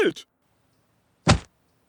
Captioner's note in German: Flatsch!